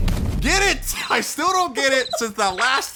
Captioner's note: dramatic music; crickets chirping